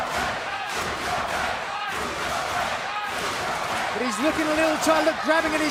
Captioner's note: crowd cheering